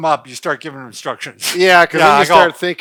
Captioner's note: laughs